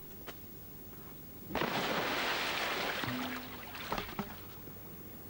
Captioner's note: splash